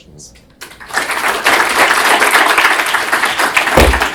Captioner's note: audience clapping